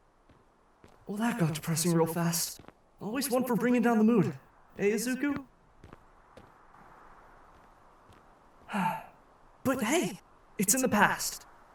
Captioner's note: sighs